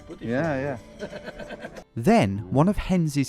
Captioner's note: laughs